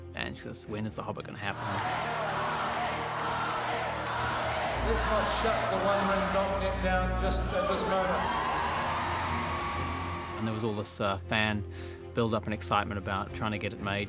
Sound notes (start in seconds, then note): 1.5 chanting; 8.0 crowd cheering